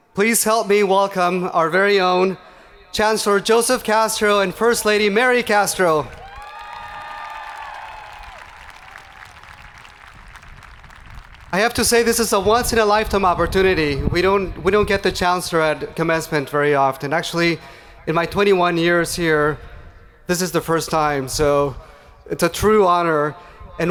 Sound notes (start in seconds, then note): 6.0 hands clapping; 6.5 people cheering